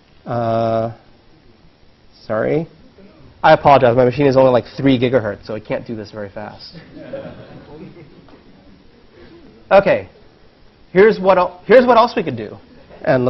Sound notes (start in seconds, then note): 6.7 laugh